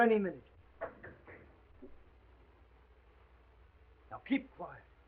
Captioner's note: knocking on door